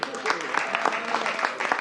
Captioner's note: applause